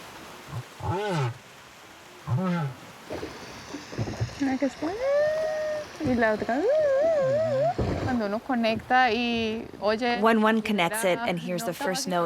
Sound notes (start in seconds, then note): 0.0 whale singing; 3.4 speaking in foreign language